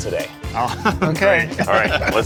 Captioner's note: laughs